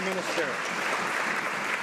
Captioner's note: some Applause